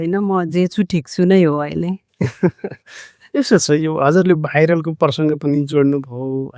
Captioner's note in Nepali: हास्य